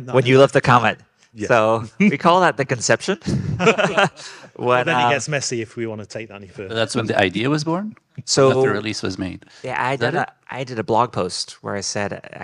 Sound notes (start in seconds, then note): 3.2 group laughing